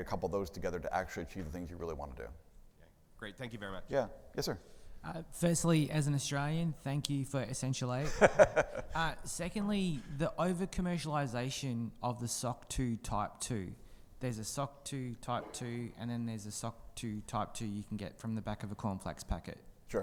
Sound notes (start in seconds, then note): 8.0 laughs